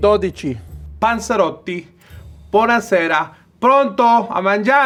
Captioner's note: speaks Italian